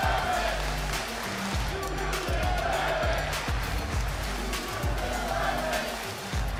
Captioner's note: crowd chants "you deserve it"